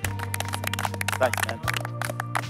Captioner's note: apapplplauausese